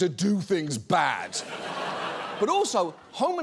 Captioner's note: studio audience laughs